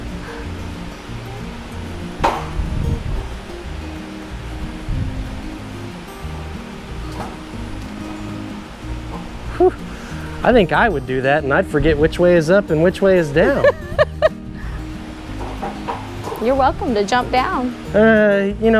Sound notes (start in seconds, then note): 2.2 trampoline clacking; 13.4 coach laughs; 15.4 trampoline clacking